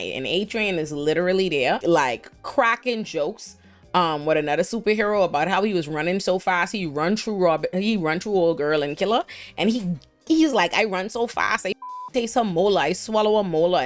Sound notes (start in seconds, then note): 11.8 beep